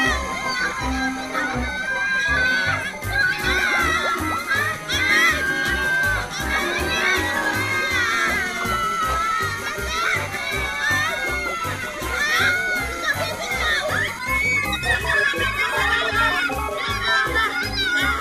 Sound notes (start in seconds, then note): 3.3 screams; 7.6 all screaming, grunting